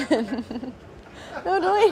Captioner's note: laughing